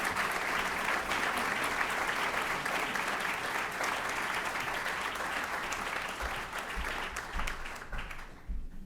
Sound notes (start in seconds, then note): 0.0 applause